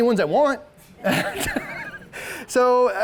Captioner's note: all laughing